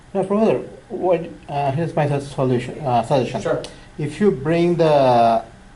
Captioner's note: voiceover